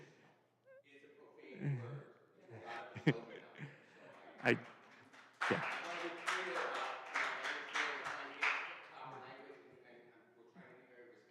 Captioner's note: laughter